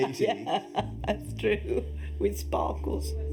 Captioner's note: laughs